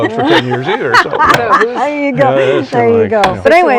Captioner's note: laughs